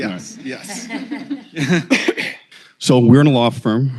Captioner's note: laughter